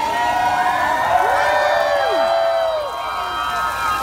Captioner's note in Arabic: هتاف حاشد